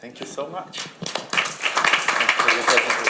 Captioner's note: audience applauds